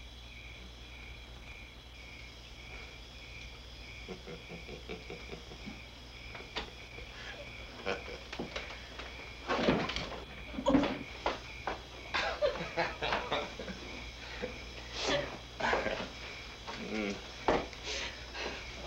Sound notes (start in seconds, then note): 4.0 laughter